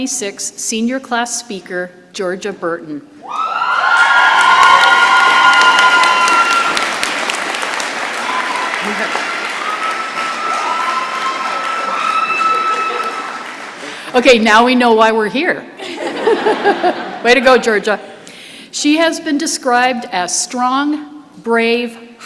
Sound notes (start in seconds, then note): 3.2 shouting and applause; 15.8 laughter